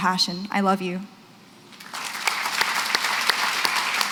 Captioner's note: applause